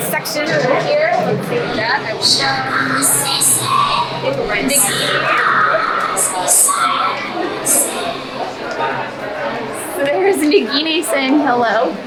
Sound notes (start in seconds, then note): 4.2 Parseltongue